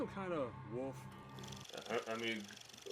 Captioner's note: reel flickering